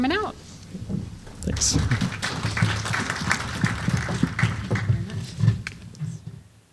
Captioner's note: applause